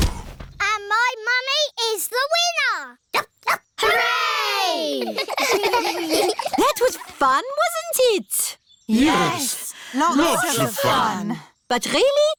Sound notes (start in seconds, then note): 0.0 groaning; 3.4 barks; 4.9 giggling